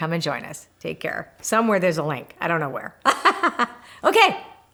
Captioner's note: laughs